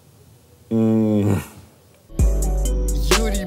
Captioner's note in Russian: Дудь раздраженно выдыхает; музыкальная заставка